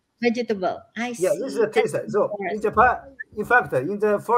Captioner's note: laugh